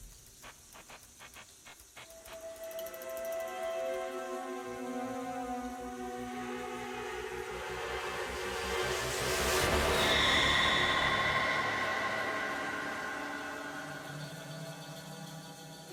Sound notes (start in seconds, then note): 2.1 eerie music; 9.4 screaming; 13.7 dramatic music